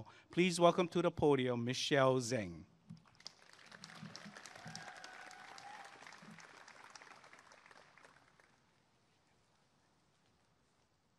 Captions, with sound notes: please welcome to the podium Michelle Zheng [applause and cheering]